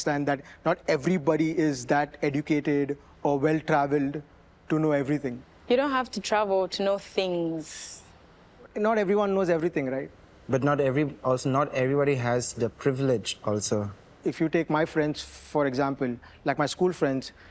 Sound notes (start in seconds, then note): none